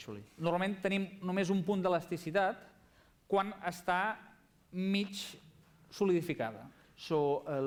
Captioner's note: non-english speech